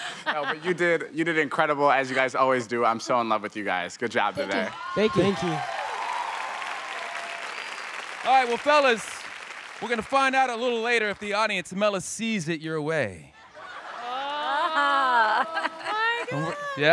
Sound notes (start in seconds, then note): 0.0 all laughing; 5.2 audience clapping